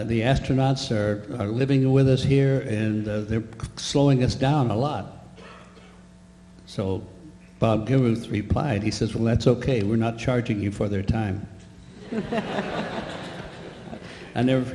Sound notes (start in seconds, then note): 11.9 audience laughter